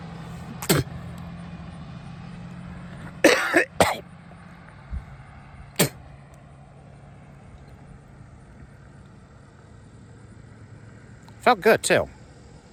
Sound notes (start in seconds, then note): 0.5 Ava spits on the ground; 3.2 Ava coughs then spits again